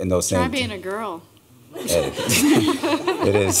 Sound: laughter

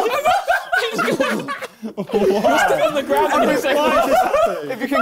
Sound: both laughs

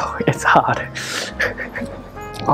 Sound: winces

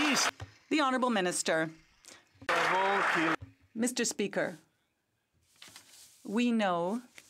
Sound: some Applause

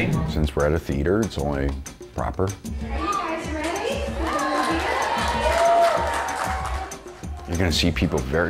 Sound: audience clapping

